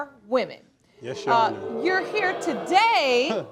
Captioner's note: crowd booing